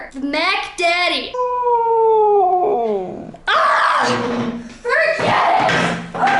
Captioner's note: Laska howling